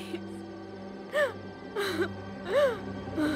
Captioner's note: Crying